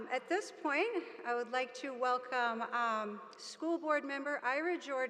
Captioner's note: none